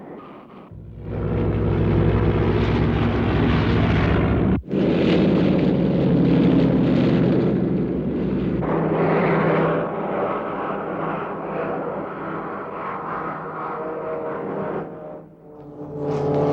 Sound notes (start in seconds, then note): 1.2 plane engines roar